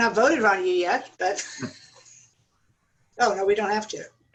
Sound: laughter

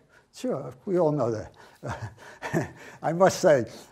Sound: chuckling

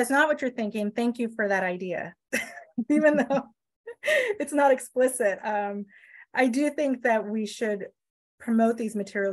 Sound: laughs

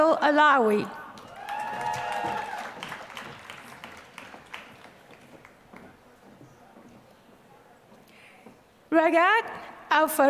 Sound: applause

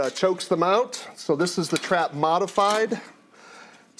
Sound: trap snaps

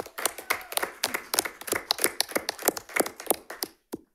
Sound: audience applauding

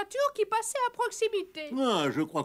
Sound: none

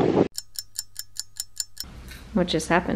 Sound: stopwatch ticking

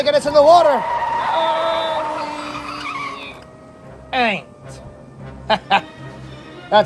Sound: tire Screech Sounds

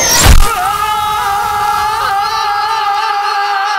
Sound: screaming in pain

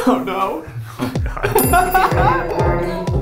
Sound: laughing; bell rings

